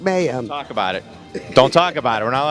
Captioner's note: laughs